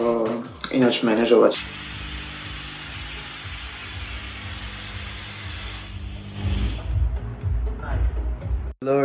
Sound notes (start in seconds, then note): 1.5 smoke maschine noise